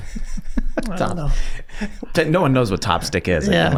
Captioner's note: gang laughs